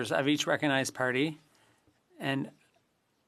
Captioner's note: speaking French